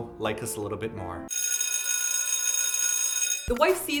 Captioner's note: bell!